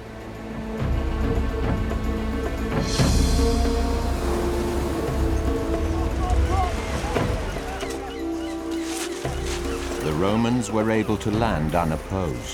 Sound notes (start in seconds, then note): 0.3 soft dramatic music; 5.2 soldiers shouting